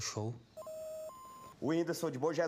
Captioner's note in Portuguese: bipando